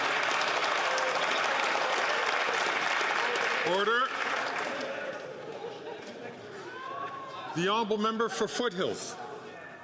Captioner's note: some Applause